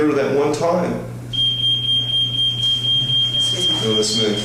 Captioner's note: pager beeping